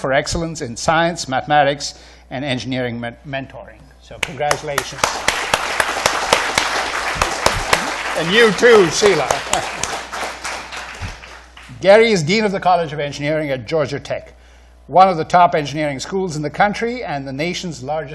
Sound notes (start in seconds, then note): 4.2 applause